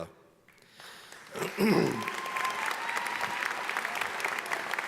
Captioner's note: audience applauding